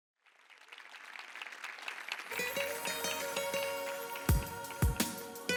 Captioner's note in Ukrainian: оплески